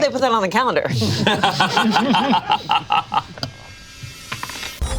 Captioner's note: group laughs